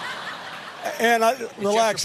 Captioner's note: laughter